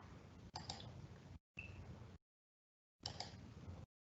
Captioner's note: mouse clicking